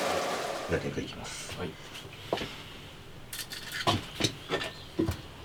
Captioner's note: steaming